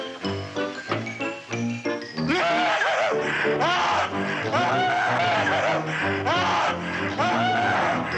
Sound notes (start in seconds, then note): 2.3 screaming